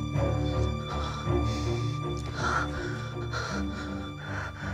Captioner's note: Jessica gasping